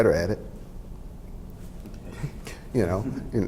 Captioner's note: laughs